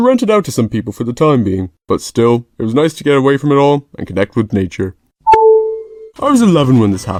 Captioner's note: iphone charge sound effect